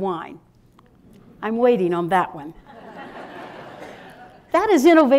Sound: laughter

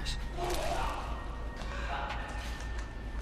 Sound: retching sound

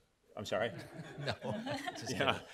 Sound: crowd laughing

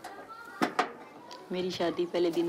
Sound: speaking urdu

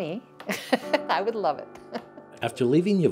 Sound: laughing

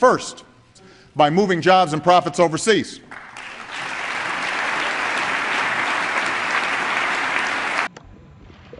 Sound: applause

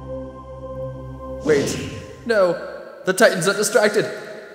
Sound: whoosh

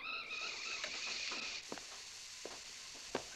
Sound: gas hissing

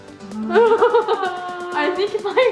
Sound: laughter

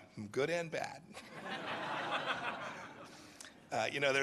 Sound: laughter

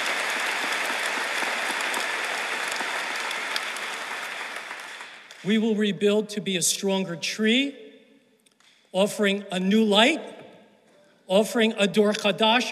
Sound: applause

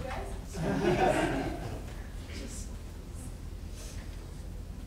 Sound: audience laughing

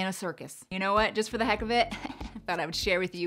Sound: laughing

